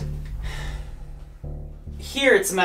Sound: sighs

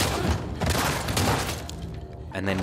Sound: gun fires

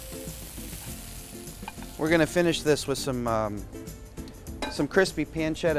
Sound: sizzling

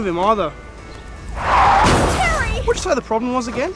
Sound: car crashing, 'Terry!'

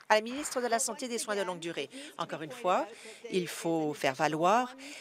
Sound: applause

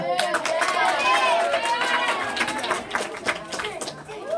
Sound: applause

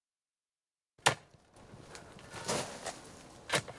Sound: digging

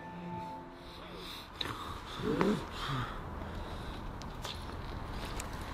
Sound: heavy breathing

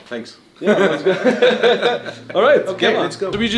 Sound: chuckles

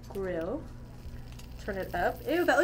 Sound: steak sizzles

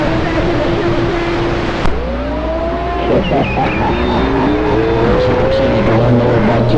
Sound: tones; wheezing laughter

